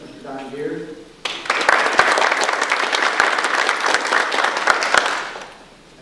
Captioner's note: audience applause